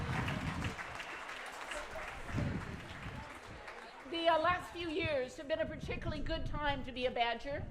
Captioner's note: applause